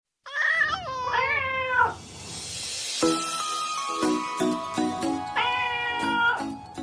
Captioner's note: meowing Cats